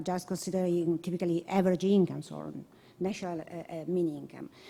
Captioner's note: none